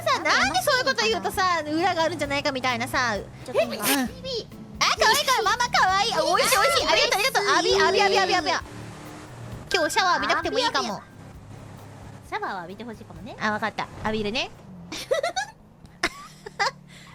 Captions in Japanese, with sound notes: (くしゃみ) あ〜美味しい美味しい！ ありがとありがと！ 浴び浴び浴び浴びゃ浴びゃ！ 今日シャワー浴びなくていいかも… シャワーは浴びてほしいかもね？